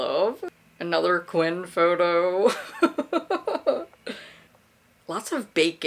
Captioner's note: laughs